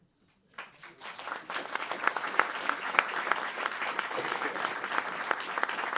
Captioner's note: applause